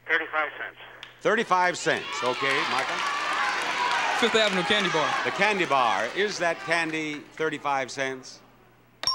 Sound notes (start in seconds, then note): 2.0 applause; 8.9 bell dings